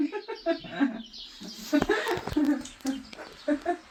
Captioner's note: laughter